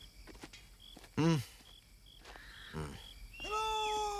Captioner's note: sighs